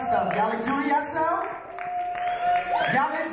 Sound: audience cheer

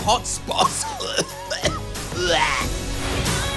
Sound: coughs

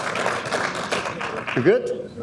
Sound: audience applauding

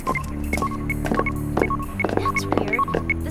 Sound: beeping getting faster; footsteps

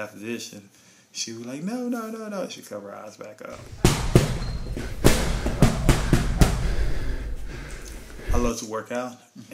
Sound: punching and training sounds

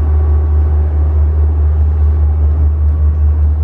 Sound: constant sound of the boat

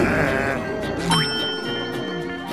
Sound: grunting; dinging

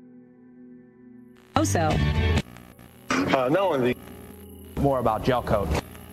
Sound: TV channel is changing in Background

